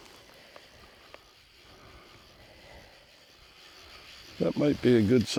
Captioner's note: reel whirring